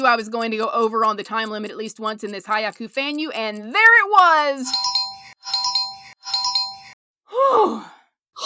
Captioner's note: bell bell bell